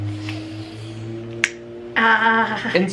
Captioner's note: snaps fingers